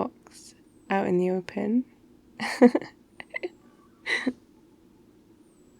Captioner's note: laughs